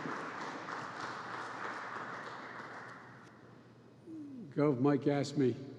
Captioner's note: applause